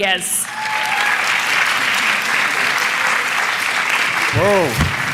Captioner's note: applause